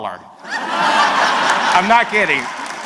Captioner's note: audience laughs